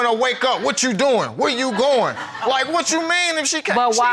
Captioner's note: audience laughs